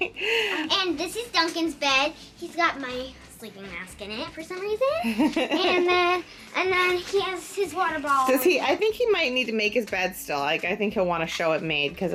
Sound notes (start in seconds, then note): 0.0 laughs; 5.0 laughing